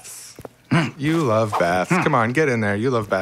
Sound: boy grunting

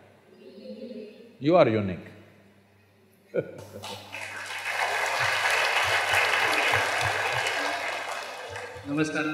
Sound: laughs; applause

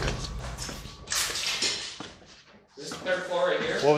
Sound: clattering

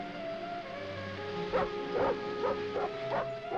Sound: dog barking

